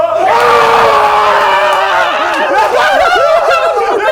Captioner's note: both cheering loudly